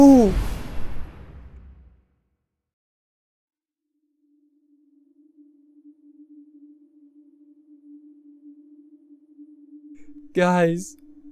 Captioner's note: eerie sounds cause i want you to get uncomfortable